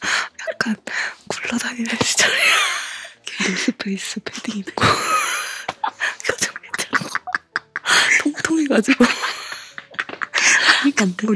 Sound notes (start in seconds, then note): 7.0 laughing